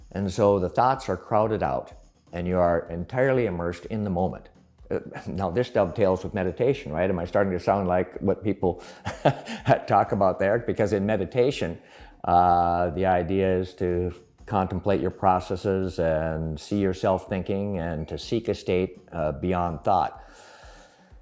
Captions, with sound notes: And so the thoughts are crowded out and you are entirely immersed in the moment. Now this is dovetails with meditation, right? Am I starting to sound like what people (laughs) talk about there. Because in meditation, the idea is to contemplate your processes, and see yourself thinking, and to seek a state beyond thought.